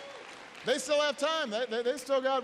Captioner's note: applause